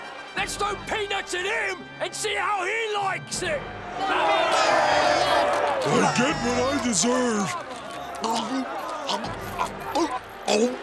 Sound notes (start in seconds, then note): 3.6 shouting